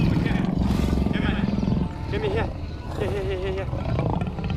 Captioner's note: growling